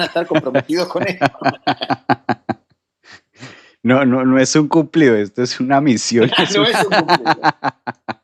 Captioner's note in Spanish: risas